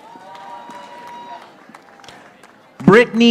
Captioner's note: audience applauding